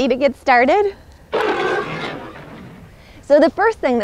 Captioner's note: roars